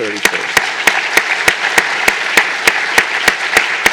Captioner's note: applause